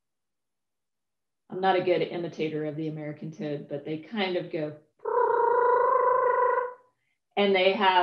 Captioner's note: toad sounds